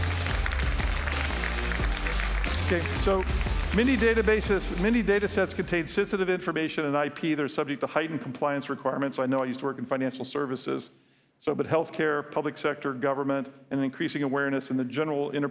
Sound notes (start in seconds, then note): 3.9 applause